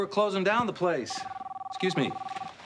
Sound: phone rings

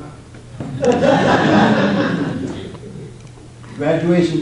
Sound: audience laughs

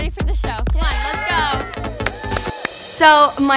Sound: group exclaiming

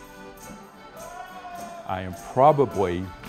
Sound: lively music; man hollering

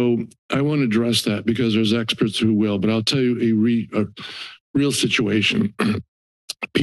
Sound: clears throat

